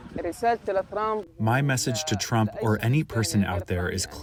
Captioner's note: through translator